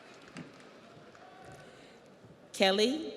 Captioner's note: audience applauds